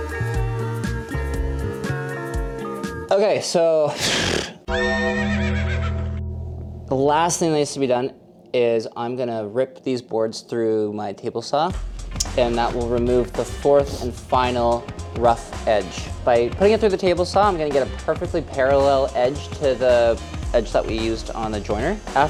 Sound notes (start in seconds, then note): 0.0 mellow music; 4.0 horse neighing